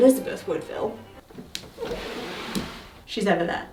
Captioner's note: desk scraping